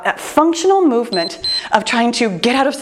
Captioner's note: timer beeps